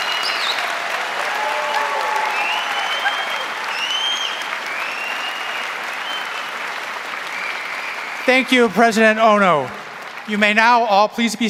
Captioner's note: applause